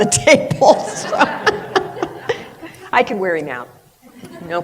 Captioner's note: laughter